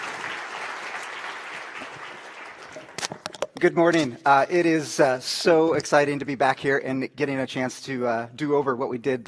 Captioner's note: applause